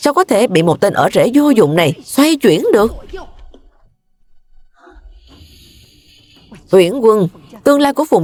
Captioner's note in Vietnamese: khịt mũi